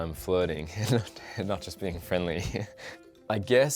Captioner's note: giggles